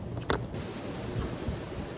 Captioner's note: wind blows; booklet taps, flops